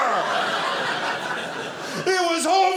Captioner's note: audience laughing